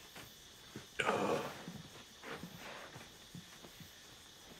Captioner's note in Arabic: آهات